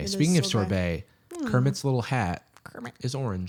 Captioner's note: Kermit voice